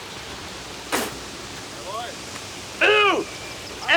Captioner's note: Ignacio spits